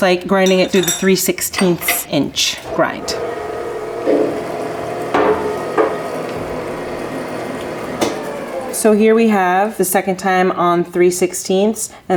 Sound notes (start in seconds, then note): 2.4 grinder humming